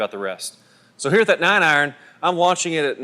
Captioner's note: voiceover